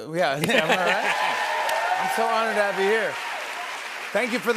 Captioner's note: cheers and applause